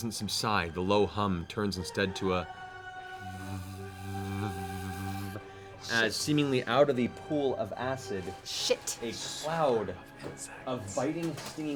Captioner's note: buzzing